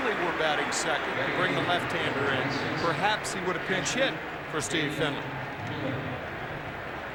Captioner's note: cheers and applause